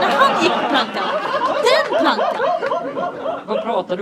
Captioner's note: audience laughs